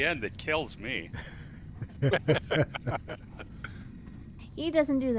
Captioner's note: laughing